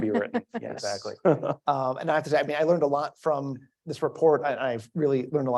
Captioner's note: laugh